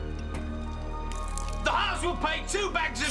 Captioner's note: liquid pouring